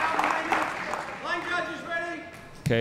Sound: audience applauding; players chattering

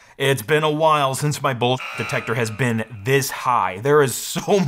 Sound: buzzer

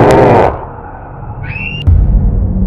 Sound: screams

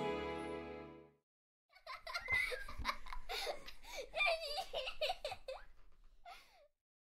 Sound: little girl giggling

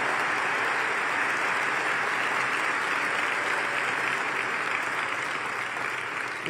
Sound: cheers and applause

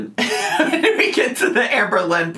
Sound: laughing

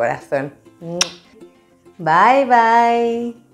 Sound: kiss

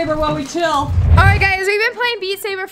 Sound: woosh

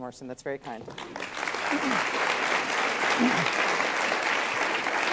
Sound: students applauding

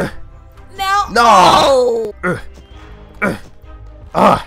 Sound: groaning

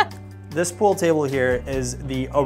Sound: laughs

